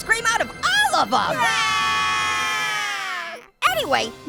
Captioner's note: Orange screaming